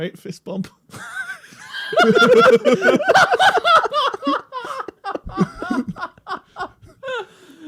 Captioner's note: Mark and Bob wheeze laugh into cackles